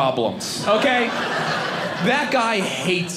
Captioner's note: audience laughing